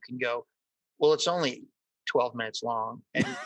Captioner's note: laughs